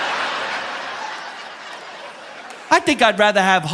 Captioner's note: audience laughing